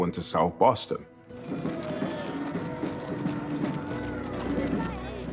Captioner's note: crowd cheering, drums pounding